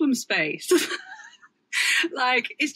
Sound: laughs

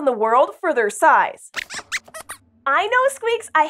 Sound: squeaks squeaks

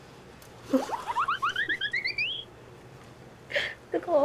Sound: giggle

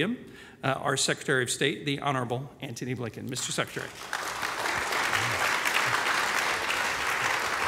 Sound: applause

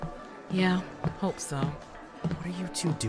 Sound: footsteps

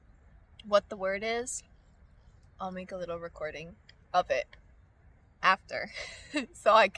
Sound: laughs

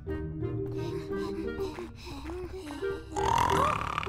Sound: all panting; loud snoring

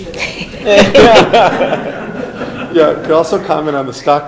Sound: laughing

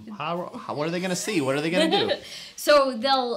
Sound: laughs

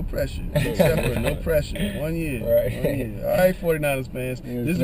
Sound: laugh

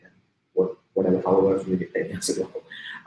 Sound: speaking softly

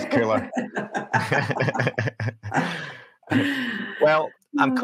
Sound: laughing

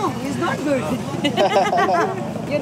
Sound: laughing

